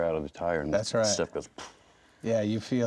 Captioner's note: puffs air